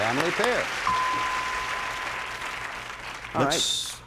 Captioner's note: applause; bell rings